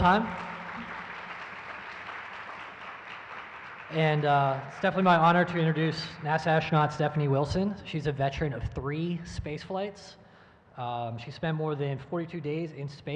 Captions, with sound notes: (audience applauds) And it's definitely my honor to introduce NASA astronaut Stephanie Wilson. She's a veteran of three space flights. She spent more than 42 days in space,